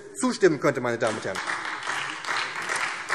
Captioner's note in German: Beifall SPD